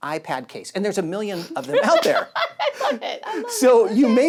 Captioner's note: laughing